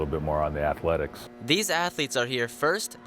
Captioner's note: voiceover